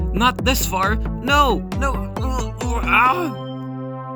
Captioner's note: bubbly speech